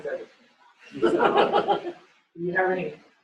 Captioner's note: laughter